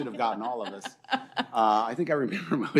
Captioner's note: laughter